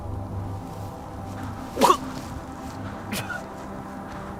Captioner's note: кашляет